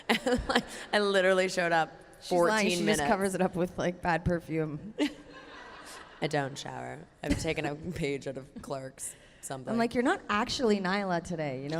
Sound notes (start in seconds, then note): 0.0 laughs; 5.3 audience laughter